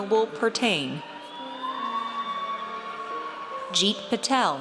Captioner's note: audience cheers